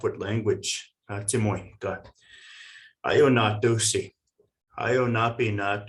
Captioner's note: speaking in foreign language